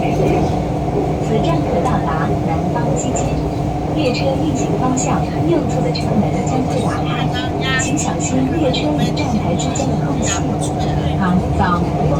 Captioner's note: Regular Mandarin announcement